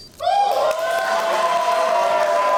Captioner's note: cheering